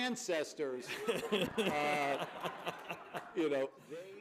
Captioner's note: laughter